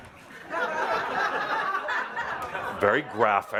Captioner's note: laughter